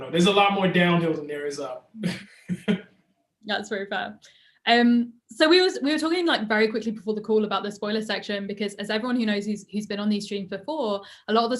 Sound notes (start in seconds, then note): 2.0 Ta-Nehisi chuckles